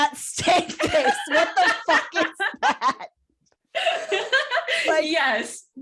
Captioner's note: laughter